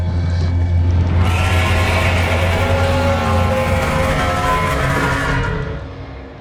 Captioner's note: creature screaming